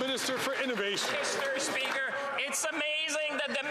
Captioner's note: some Applause